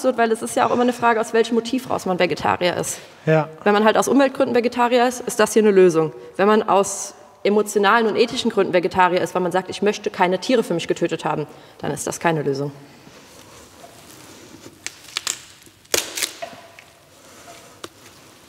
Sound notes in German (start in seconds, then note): 14.7 Knacken